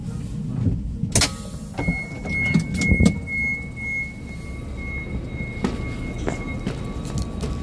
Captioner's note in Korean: 출입문 열림